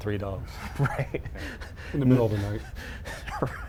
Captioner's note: chuckling